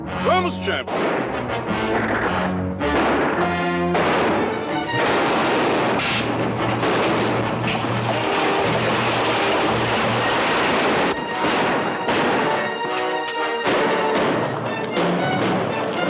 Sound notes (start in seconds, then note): 2.2 gunshots